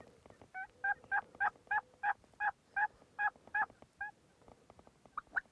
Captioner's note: distant sound of turkey calling